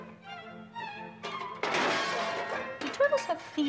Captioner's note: items crashing